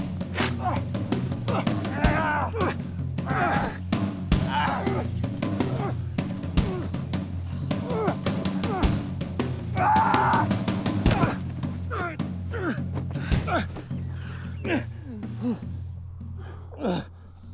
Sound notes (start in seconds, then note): 2.0 growling; 5.2 whispering; 10.0 yelling